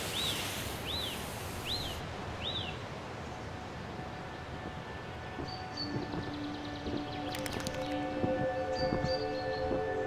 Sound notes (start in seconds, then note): 5.1 light footsteps crunch on snow; 7.3 ears flap